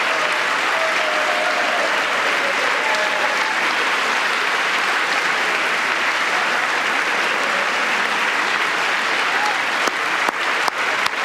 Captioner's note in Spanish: aplausos